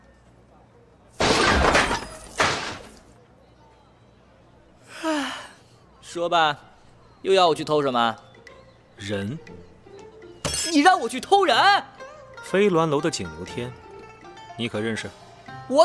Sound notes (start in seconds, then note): 1.2 doors banging open; 4.9 Duan Yao yawning